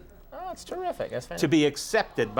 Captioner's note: audience sighs